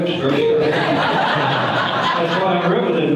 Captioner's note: audience laughter